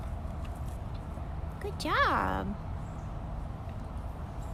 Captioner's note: chewing